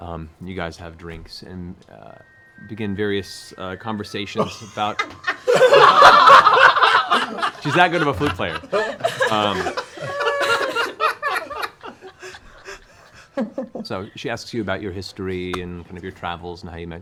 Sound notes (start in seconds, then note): 4.1 flute music; 5.8 laughter